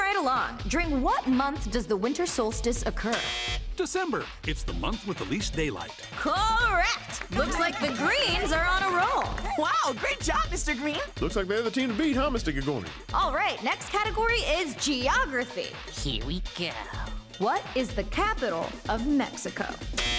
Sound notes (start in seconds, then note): 3.1 buzzer